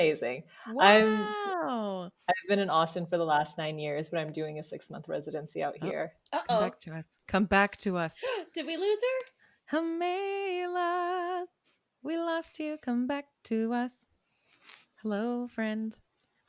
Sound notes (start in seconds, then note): 9.4 gasp; 10.0 singing